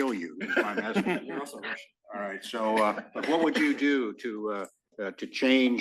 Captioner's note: laugh